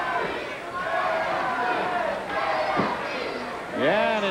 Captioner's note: crowd chanting